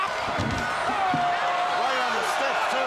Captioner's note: crowd chatter